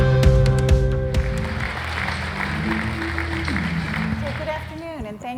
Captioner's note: audience clapping